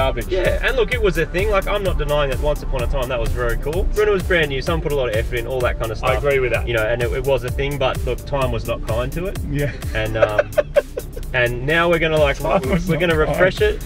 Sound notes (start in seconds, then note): 9.5 laughs